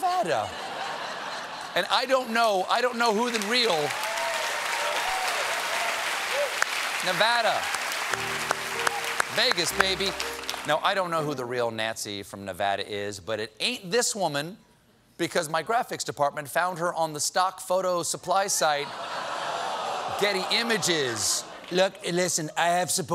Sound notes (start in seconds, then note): 0.2 laughter; 3.9 applause